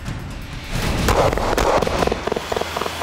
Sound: gun shots

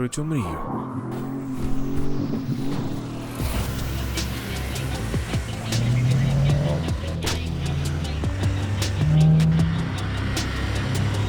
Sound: engine sound

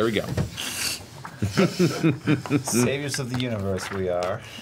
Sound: all laugh

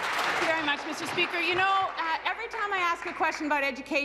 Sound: applause

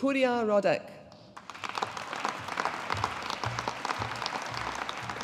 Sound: audience applauding

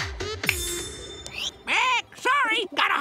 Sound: squawking

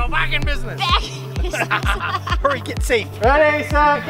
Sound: laughs

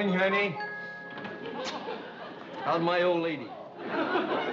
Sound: kisses

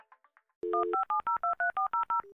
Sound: telephone tones

